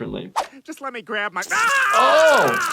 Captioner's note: screams